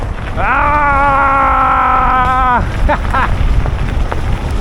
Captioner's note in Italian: gemito; urlo